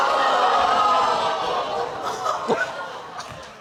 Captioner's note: crowd crinjing